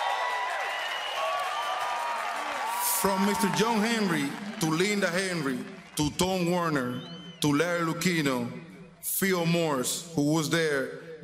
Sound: applause

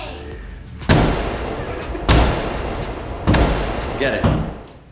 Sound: hammer banging

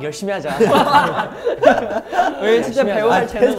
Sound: laughing

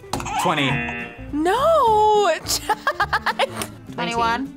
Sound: buzzer rings; buzzer; laughs

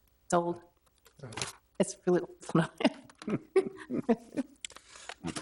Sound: laughing

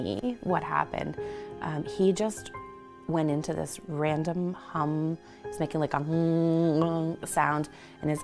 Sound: makes humming noise

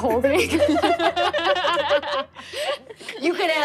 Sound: laughing

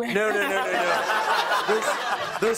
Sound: laughter

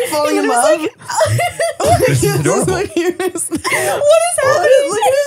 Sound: laughing

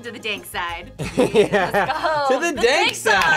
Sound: both laugh

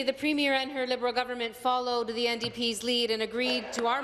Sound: applause

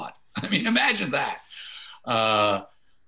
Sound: chuckles

